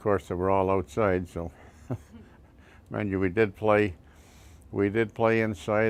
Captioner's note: laughs